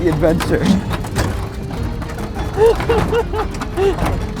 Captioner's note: laughter